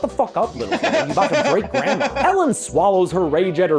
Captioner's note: laughs Loudly